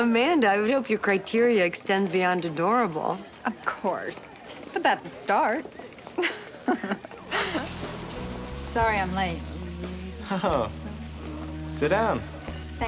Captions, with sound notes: - (laughs) Amanda, I would hope your criteria extends beyond adorable. - Of course. But that's a start. (Amanda laughs) Sorry I'm late. - Oh, sit down.